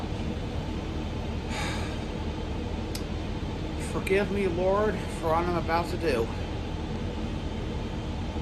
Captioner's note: sighs